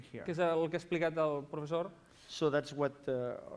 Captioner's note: non-english speech